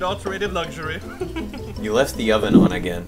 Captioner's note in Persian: صدای خنده